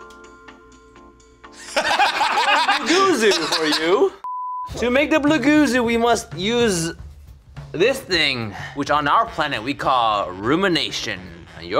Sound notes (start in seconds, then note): 1.6 laugh; 4.2 beep